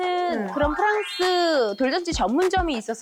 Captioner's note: main branch sound effect